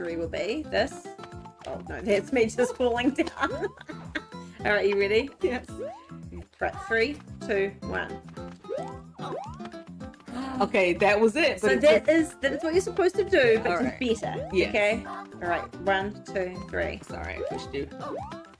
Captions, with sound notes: what my trajectory will be. This. Oh no, that's me just falling down. [Both laugh] All right, you ready? Yes. Right, 3, 2,1... [Both gasp] Okay, that was it. So that is what you're supposed to do. But just better. Okay. Yes. All right, 1, 2, 3. Sorry, I pushed you.